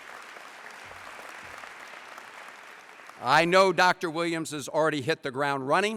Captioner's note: applause